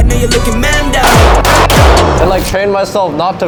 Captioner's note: gun booming